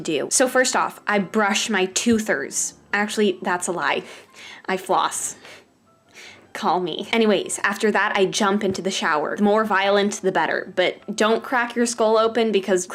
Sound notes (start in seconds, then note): 3.9 nose exhale; 4.0 heavy breathing